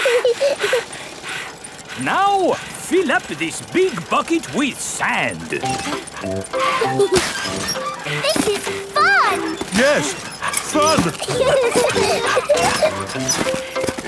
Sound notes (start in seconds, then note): 0.0 peppa chuckles; 0.2 mummy pig panting; 6.5 mummy and daddy pig panting; 6.5 peppa and george laughing; 10.0 straining; 11.5 peppa and george laughing